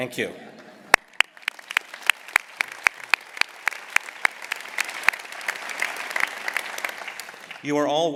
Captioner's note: applause